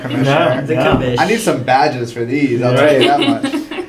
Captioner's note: laugh